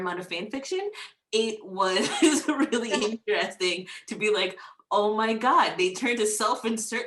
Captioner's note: laughs